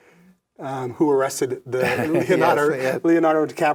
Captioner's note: laughs